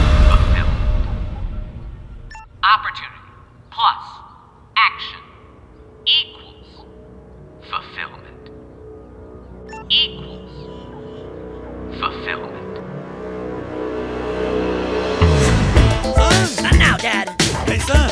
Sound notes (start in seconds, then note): 2.1 beeps; 9.6 beeps; 12.8 thrilling music